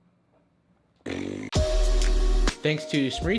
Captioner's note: blowing raspberries; upbeat music